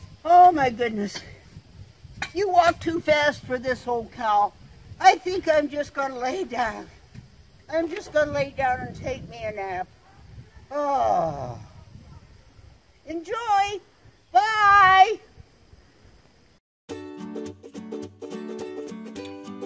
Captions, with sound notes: Oh my goodness, you walk too fast for this old cow. I think I'm just gonna lay down. I'm just gonna lay down and take me a nap. Oh, (sighs) enjoy! Bye! (upbeat music)